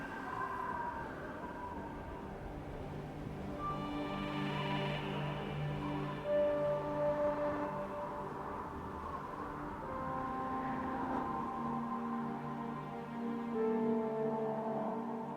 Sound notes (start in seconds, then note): 8.1 gentle music continues; 8.1 wind whistling